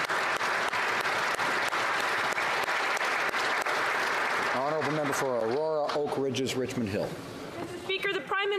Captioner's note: applause